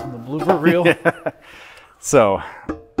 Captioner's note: laughing